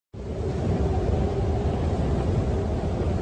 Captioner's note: wind howling